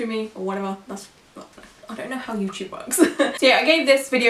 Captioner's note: laughs